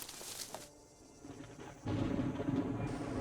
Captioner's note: thunder